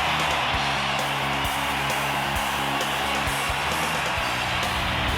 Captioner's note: crowd cheers